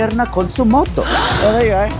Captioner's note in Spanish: audiencia respira profundamente